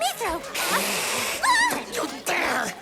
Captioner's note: hisses defensively